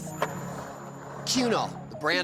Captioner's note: skateboard wheels roaring